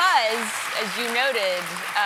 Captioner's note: applause